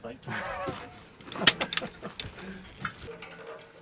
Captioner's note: laughing